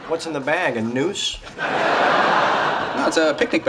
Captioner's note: audience laughs